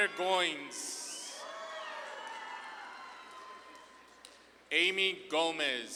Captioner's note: audience claps and cheers